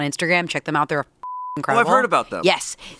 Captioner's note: beep